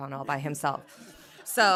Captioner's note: laughter